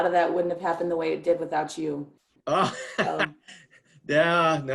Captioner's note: laughs